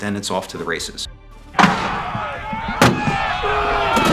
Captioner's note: cannon fires, men shouting